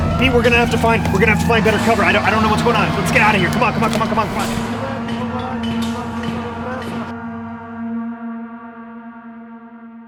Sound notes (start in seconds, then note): 5.9 sirens blaring